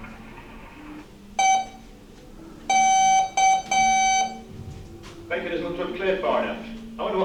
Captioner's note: beep beep beep